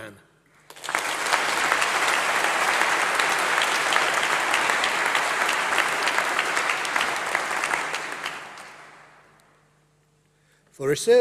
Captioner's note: applause